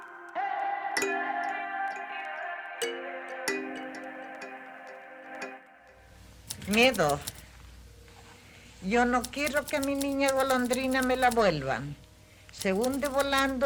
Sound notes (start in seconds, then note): 9.2 Tecleo